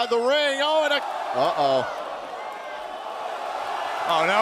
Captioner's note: crowd cheering